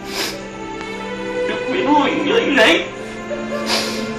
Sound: sobbing

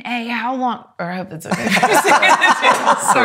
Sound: laughs

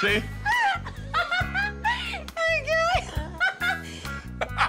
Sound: laughs

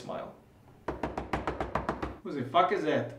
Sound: knocking on door

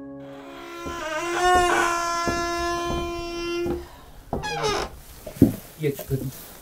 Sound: squeaking sound

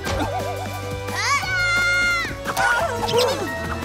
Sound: screaming

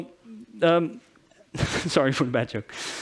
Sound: chuckles

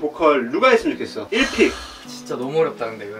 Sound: sighs

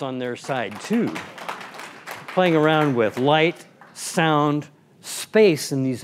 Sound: applause

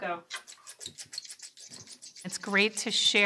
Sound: scissors snapping

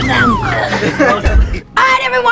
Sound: laughing

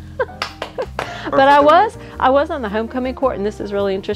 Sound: laughing

